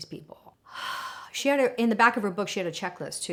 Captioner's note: gasps